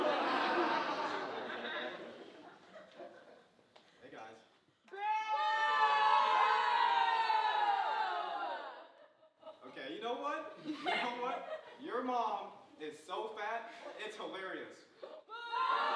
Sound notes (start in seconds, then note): 0.0 audience laughing; 5.0 audience booing